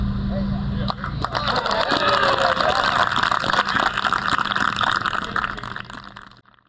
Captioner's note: applause